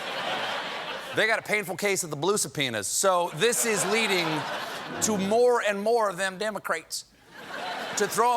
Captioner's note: laughter